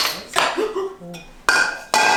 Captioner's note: gasps